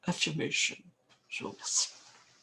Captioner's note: french